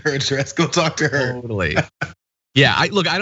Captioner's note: laugh